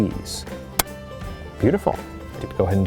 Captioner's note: trigger clicks